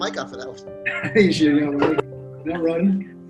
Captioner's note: laughs